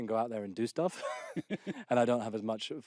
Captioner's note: laughter